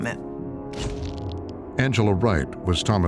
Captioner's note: shutter clicks